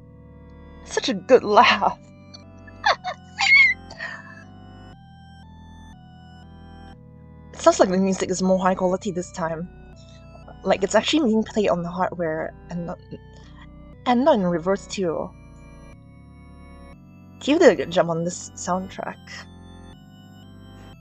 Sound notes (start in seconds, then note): 2.7 squealing laugh